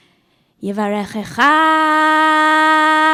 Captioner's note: speaking hebrew